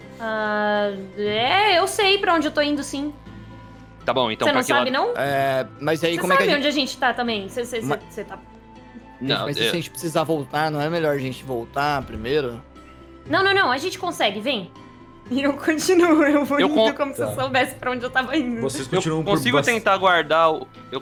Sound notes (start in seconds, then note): 16.3 laughs